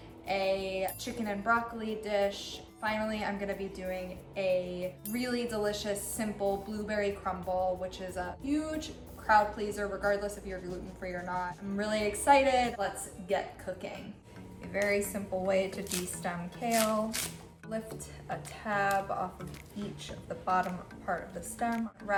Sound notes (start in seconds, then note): 16.6 kale ripping